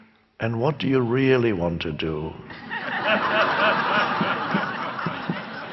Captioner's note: crowd laughs